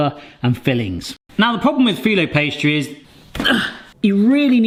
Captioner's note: grunts